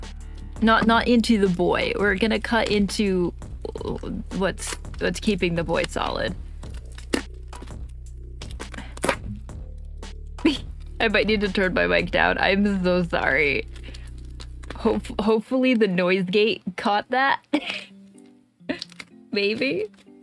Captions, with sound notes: Not--not into the boi. We're going to cut into what is keeping the boi solid. [Ripping Sounds] I might need to turn my mic down. I'm so sorry. Hope--hopefully the noise gate caught that. [laugh] Maybe..?